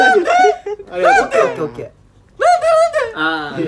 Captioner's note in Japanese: 高い声で